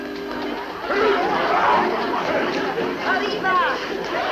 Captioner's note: choking sounds